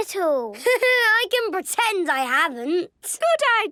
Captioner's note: Danny laughing